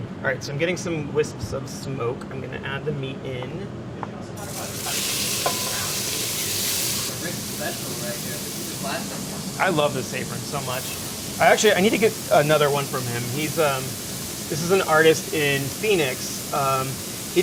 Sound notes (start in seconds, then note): 4.6 sizzling